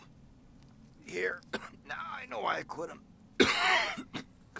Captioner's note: coughs; coughs